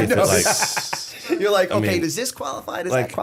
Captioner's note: laughter